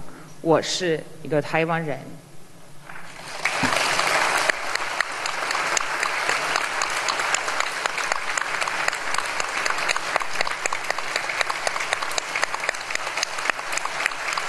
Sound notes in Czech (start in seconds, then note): 3.0 applause